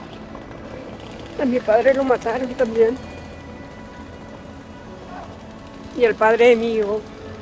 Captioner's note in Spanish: sollozando